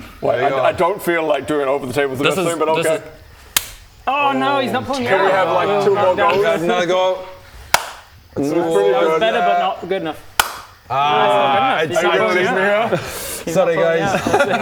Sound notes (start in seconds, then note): 3.5 slap; 7.7 smack